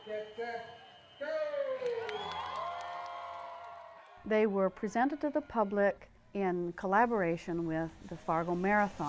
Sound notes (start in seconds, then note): 3.4 applause & cheers